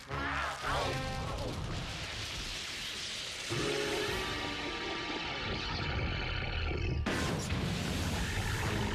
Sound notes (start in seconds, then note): 4.6 growling